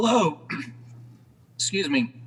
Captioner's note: clears throat